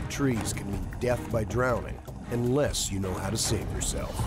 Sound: voiceover

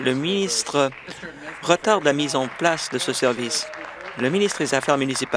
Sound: applause

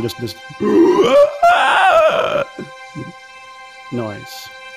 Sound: guttural sound

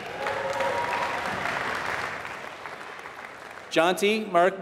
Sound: applause

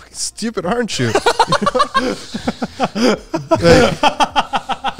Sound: all laughing

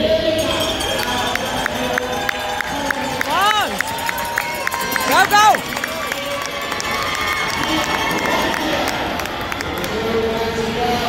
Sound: loud cheers and applause from crowd

